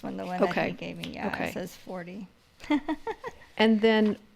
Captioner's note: laughs